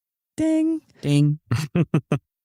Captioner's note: laughs